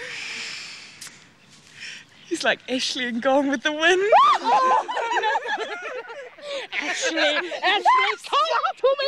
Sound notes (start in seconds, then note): 4.0 screaming and giggling